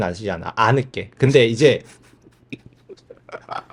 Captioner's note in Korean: 웃음